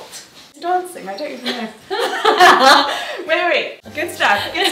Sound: laughs

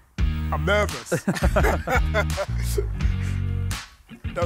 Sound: laughter

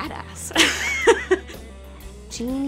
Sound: laughter

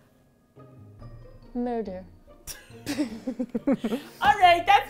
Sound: both laugh

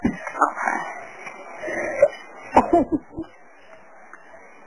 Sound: coughing

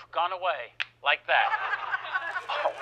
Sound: fingers snapping; audience laughing

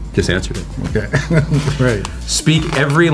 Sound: laughs

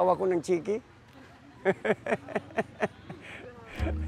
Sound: laughs

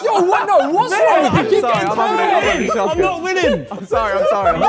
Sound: men yell indistinctly

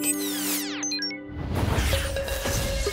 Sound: beeping

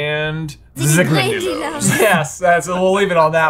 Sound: speaking foreign language; Hermione speaking foreign language

